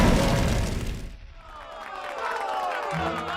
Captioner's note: cheers and applause